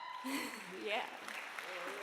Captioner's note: crowd cheers